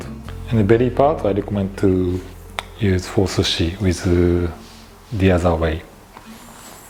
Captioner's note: cutting